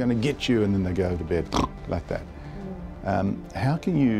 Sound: snores

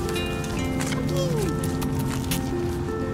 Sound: kissing sounds

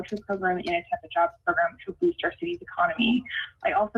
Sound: ~audio distortion~

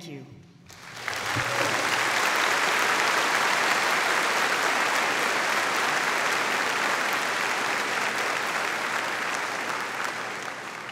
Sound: audience applauding

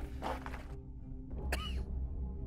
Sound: cough

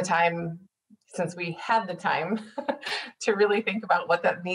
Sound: laughing

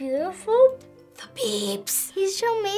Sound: whispering

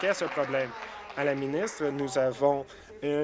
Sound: applause

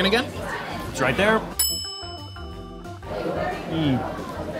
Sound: bell dings

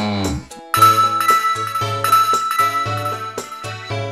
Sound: Splatoon noises

